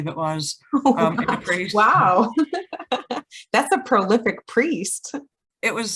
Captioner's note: laughing